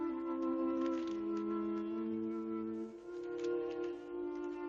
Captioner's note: paper rustling